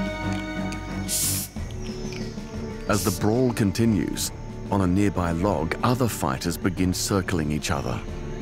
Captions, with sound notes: -[hissing] -[dramatic music continues] As the brawl continues, on a nearby log, other fighters begin circling each other.